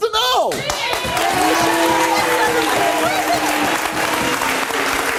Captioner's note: audience cheers and applauds